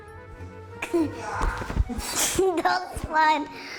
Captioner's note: laughs; giggles